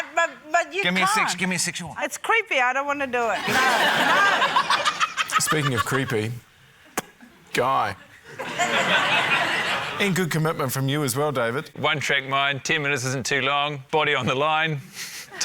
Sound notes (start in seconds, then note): 3.4 laughter; 6.9 pops lips; 8.0 laughter